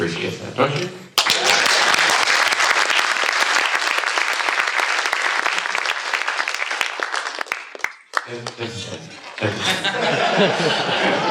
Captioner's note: clapping; laughter